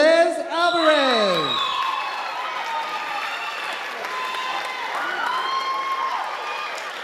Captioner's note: audience applauding and cheering